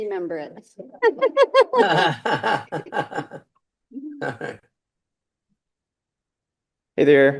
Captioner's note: all laughing